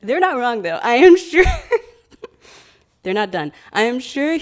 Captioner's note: laughs